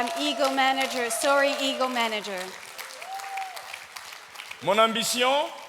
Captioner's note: audience cheering; speaking in French